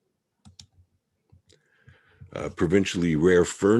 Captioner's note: mouse clicking